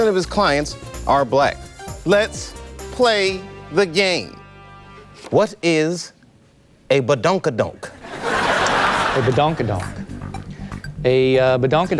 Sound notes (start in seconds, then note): 8.0 audience laughs